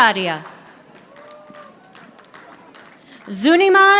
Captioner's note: audience applauding